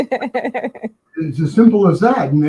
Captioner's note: stoner laughs